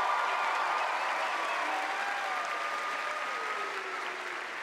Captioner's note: cheers and applause